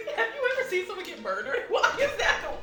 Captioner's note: laughs